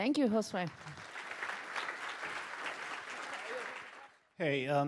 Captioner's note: applause